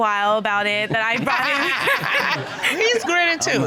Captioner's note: all laughing